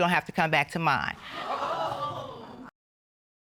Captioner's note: audience hooting